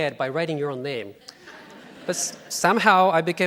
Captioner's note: laughing